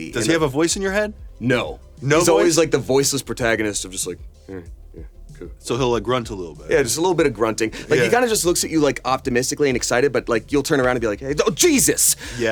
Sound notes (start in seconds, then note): 4.6 grunting